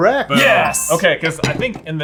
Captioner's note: ding